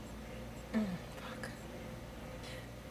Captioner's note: whispers